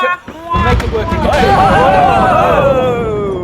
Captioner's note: dramatic perfectly-timed crash of thunder